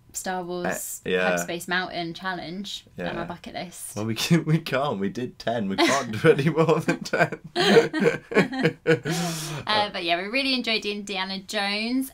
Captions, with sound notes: Star Wars Hyperspace Mountain challenge on our bucket list. Well, we can't, we did ten we can't do any more than ten. *Laughing* But yeah, we really enjoyed Indiana Jones.